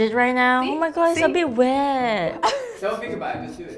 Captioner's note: laughs